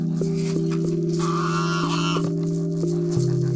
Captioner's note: birds chirping